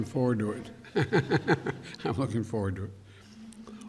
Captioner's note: laughs